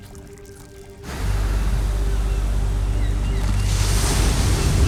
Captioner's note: waves rumbling